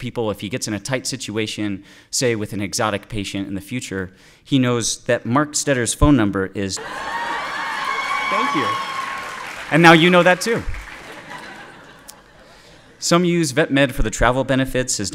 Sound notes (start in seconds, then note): 6.8 audience cheering